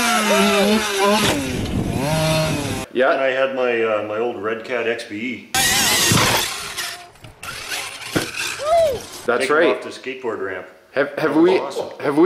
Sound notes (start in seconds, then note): 0.0 car engine roars; 0.0 men cheer; 5.7 car engine roars; 8.6 men cheer